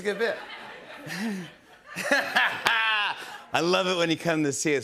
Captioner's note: laughs